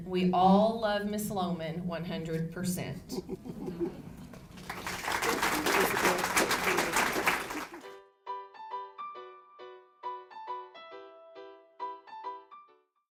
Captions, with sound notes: We all love Mrs Lohman 100 percent. (crowd claps) - Thank you Elizabeth, thank you. (soft music)